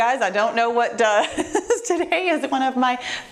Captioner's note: laughing